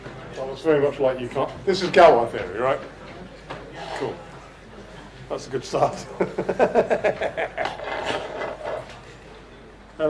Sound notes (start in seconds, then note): 6.2 crazed laughter